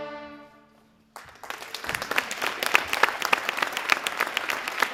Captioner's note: audience applauding